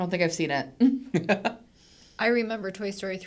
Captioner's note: laughing